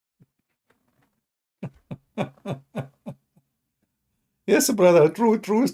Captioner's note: Ketawa